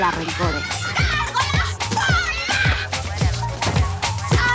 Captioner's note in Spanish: Gritos